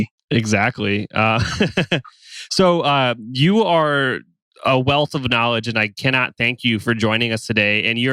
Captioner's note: laughs